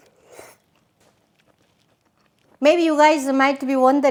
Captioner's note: tasting soup